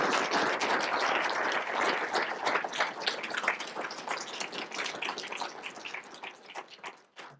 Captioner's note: applause